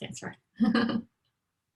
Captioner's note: laughter